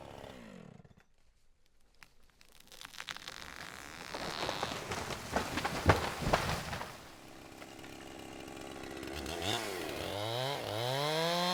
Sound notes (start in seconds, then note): 2.8 tree rustles; 8.3 chainsaw rumbling